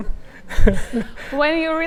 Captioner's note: laughing